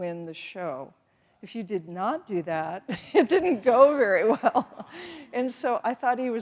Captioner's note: laughing